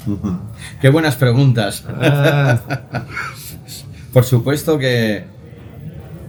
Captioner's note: laughter